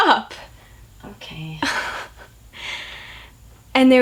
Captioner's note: laughs